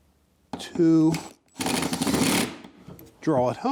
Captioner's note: drilling